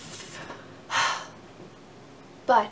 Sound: sighs

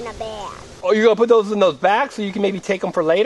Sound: voiceover

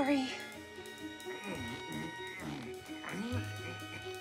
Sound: grunts, groans

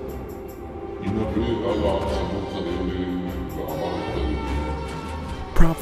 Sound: deep voice speaking foreign language

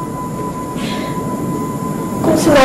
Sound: sobs

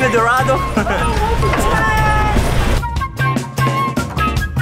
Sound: people shouting; upbeat music

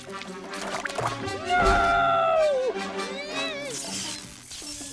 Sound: soft shriek

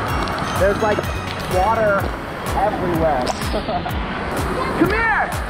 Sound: laughing

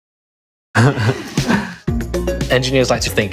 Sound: laughs

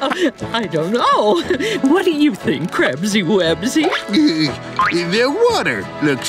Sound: giggles

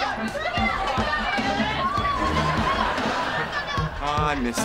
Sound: laughing

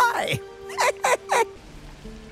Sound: geriatric laughter

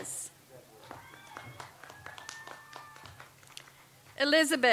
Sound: audience applauds

